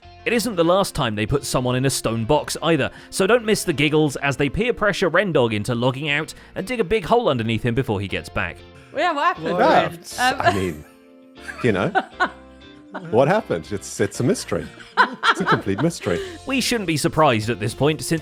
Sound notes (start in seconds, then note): 14.6 laughs